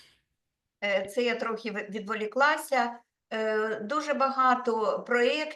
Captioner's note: speaking Ukrainian